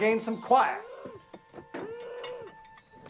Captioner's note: Helen Moans